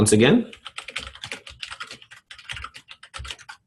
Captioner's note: typing